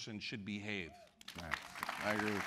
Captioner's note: applause